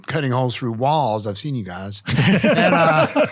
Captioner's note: all laughing